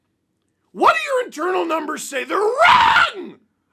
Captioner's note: screams